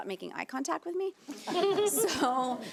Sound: audience laughing

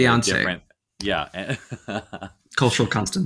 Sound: laughing

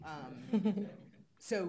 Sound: laughing

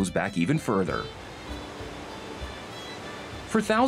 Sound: water rushing

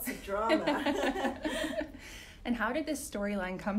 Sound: both laughing

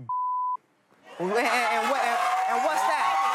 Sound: audience cheering

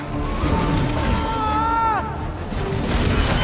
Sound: soldier screaming

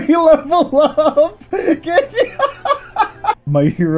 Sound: laughing

